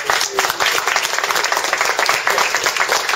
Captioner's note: applause